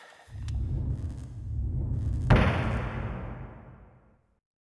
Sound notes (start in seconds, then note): 2.5 wood thumping floor